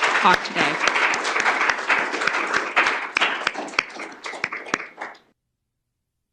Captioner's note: applause